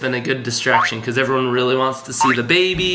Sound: boing; boing

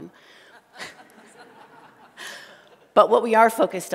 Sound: laughter

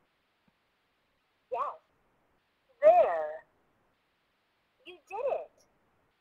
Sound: voiceover

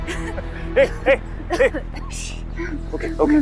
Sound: coughs

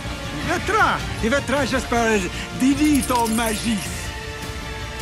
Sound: speaking valyrian

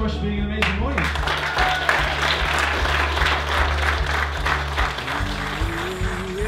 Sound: audience applauding and upbeat music

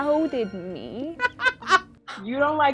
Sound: laughing

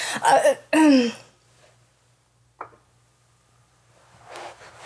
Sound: clears throat

